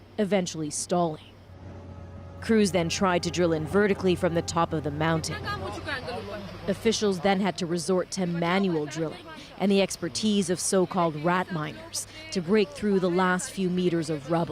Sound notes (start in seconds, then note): 8.1 speaking alternate language